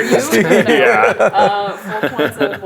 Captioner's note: laughing